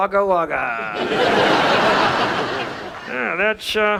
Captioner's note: audience laughs